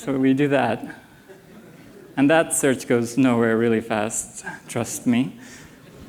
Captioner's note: laughter